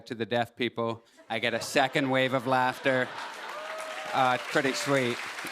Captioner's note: laughter and applause